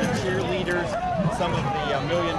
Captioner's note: cheering